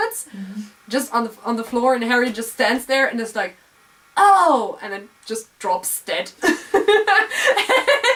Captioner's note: laugh